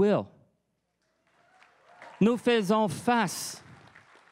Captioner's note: crowd cheering and applauding